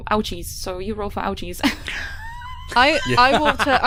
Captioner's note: laughter